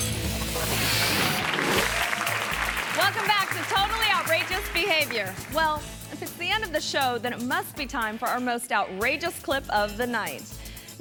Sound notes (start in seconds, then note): 0.6 audience applauds